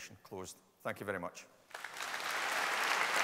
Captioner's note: applause